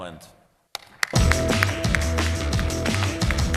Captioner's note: applause